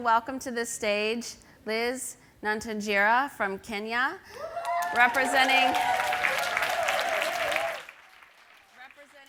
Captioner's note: applause